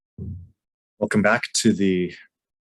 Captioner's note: gavel bangs